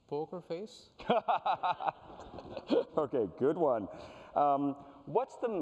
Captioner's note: laughs